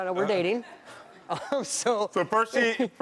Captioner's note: laughs